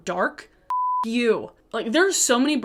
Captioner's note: beep